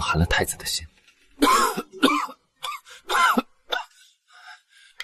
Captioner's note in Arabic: سعال